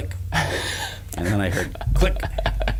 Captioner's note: laughs